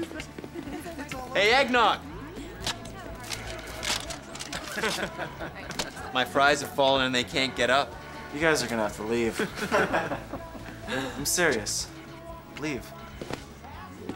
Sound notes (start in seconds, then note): 4.4 all laugh; 9.2 laughing